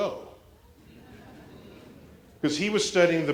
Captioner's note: laughter